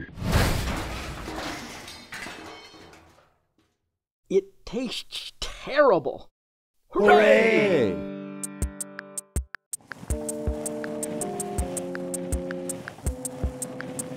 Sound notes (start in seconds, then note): 0.1 crashing; 11.0 electronic bass music